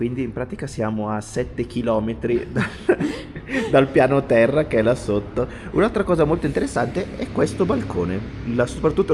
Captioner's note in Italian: risate